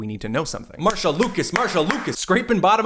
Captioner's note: claps